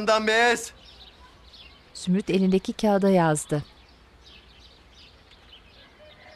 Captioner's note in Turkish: Kuş sesleri